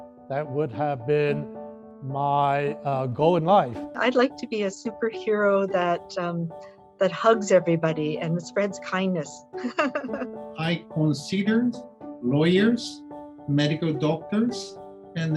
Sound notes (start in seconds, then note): 9.6 laughs